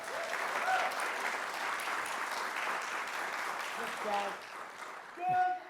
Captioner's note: audience applauding